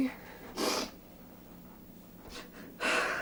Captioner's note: sniffling